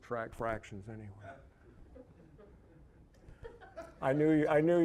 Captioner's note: audience chuckling